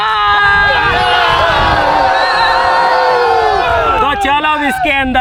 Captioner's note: cheering out of Excitement